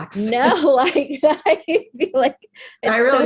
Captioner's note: laughs